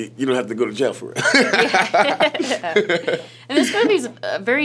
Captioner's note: laughing